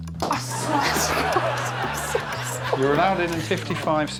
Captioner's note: laughs